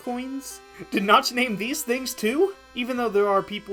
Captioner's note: laughing